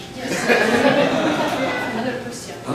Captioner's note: laughter